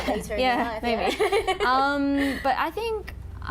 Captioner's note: laughs